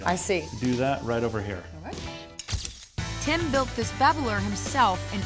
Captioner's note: none